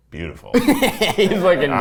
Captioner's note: laughs